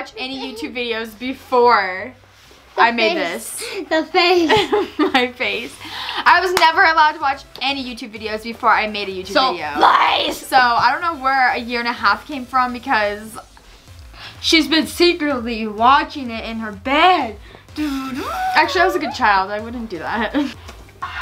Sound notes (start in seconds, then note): 4.9 laughs; 17.8 hums